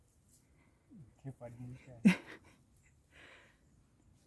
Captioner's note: laughs